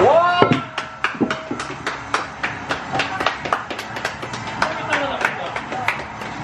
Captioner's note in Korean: 박수 짝짝짝